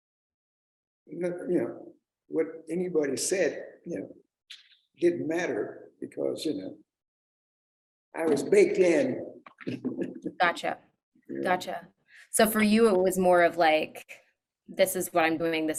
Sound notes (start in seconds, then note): 8.2 laughs